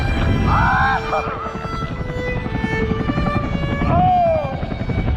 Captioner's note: screaming, laughing